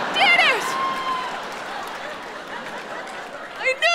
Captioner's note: audience laughing